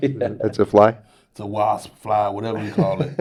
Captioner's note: Nelson laughs